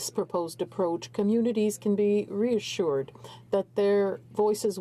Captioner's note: speaking in french